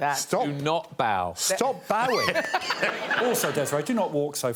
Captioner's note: audience laughing